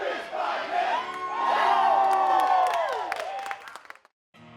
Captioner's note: cheering